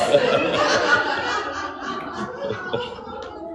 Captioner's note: laughing